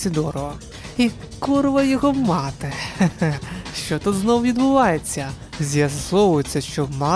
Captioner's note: giggle